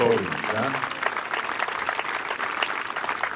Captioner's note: applause